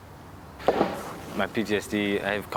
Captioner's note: baseball banging